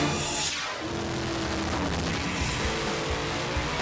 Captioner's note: logo swooshing; engines roaring; rock music